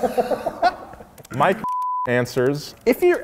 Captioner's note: laughing; beep